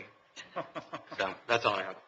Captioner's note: laughing